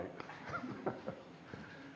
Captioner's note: laughter